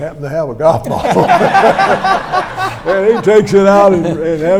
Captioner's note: audience laughs